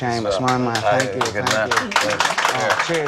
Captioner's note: applause